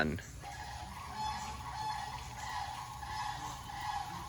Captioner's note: geese quacks